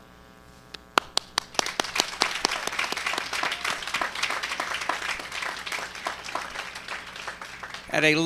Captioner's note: applause